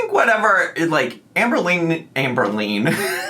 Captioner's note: laughs